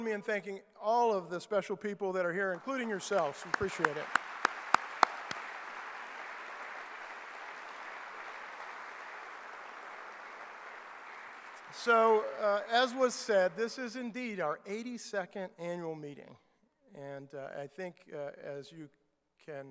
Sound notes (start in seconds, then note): 4.4 clapping